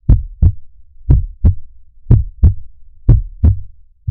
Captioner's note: heart beating